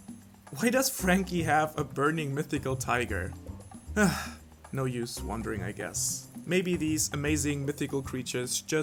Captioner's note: sigh